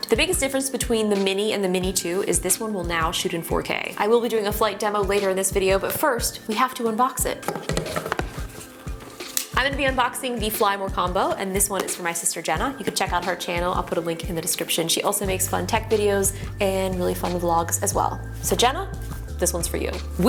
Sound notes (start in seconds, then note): 9.3 knife clicks